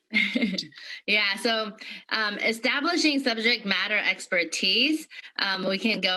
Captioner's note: laughter